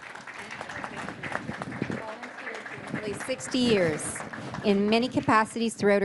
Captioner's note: in English; applause